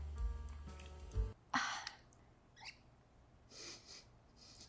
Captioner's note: exhales